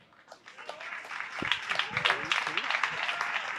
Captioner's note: applause